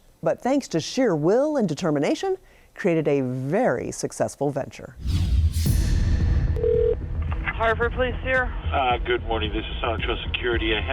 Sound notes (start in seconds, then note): 4.9 air whooshing; 5.0 dramatic music; 6.6 phone ringing